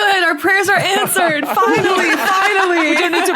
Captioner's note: group laughing